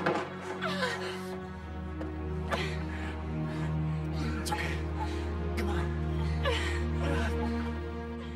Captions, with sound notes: ( Gasping ) It's okay. Come on. ( Grunting )